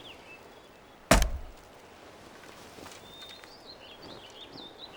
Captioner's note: thumping of arrow